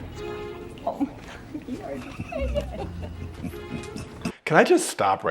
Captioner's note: flight attends chattering